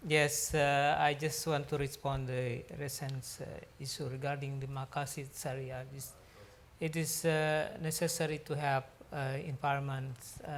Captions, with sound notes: Yes, I just want to respond. Ever since is regarding the (speaks foreign language) it is necessary to have environment